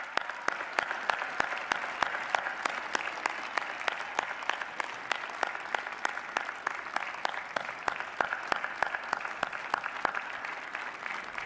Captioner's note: applause